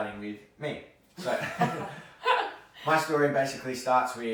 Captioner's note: laughs